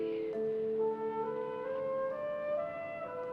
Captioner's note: whispering